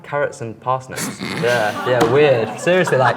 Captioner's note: laughs